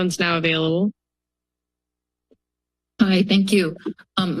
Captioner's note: silence